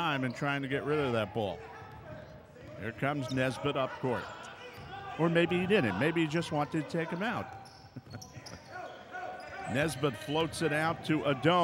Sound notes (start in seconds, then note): 1.9 ball pounding; 1.9 yelling; 6.6 shoes squeaking; 7.8 laughing